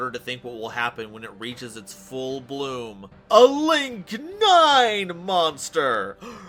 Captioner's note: audible Gasp, Horror, Shock, Swooning, Fainting